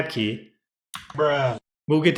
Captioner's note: The sweet sound of MX Cherry Blues being pressed